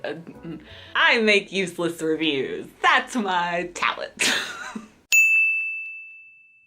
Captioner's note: ding